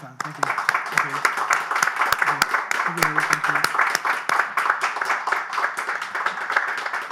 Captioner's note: audience applauding